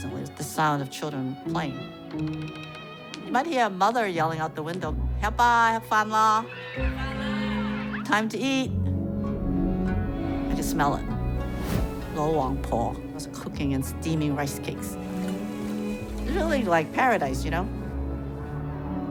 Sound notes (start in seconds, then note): 5.5 speaks Chinese